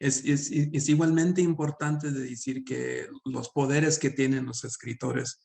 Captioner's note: speaking Spanish